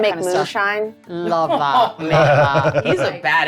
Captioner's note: laughing